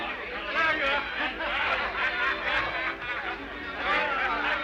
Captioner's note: men laughing